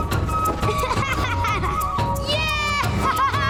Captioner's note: laughing